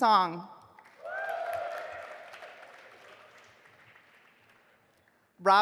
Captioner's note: audience applauding